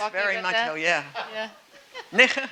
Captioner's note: speaking German